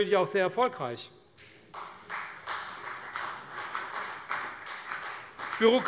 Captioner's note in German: Beifall CDU